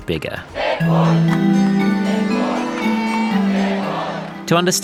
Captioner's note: crowd chants